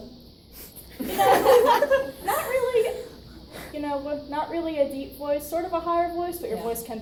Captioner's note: audience laughs